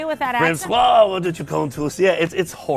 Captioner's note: french accent